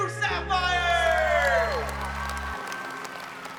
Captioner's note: cheers and applause